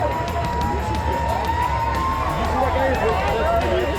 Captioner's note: crowd cheering